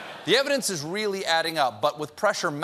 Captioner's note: laughter